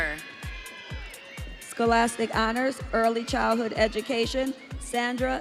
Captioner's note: audience cheering